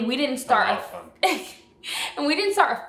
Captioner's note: laughs